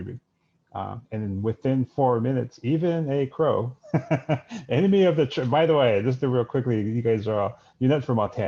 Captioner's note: laughs